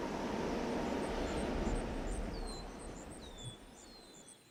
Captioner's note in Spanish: pájaros cantando